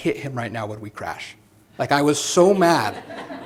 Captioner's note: laughter